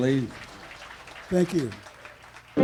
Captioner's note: audience applauding